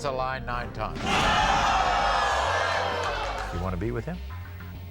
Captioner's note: audience oohs